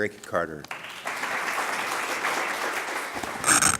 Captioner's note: applause